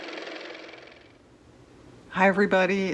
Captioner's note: car motor